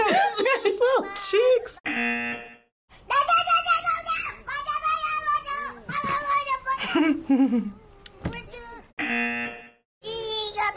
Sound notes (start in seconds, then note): 0.0 baby yelling; 1.8 buzzer; 2.8 baby yelling